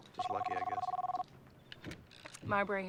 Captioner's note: cell phone rings